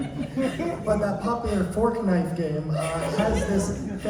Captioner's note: imitating an old man; regular intonation